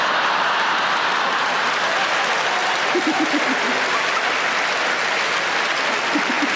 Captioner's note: audience applauding; audience laughing